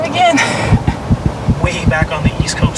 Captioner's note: heart beat